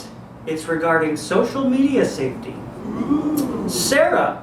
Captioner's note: audience ooh's